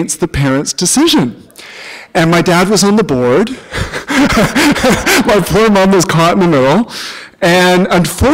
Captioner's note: chuckle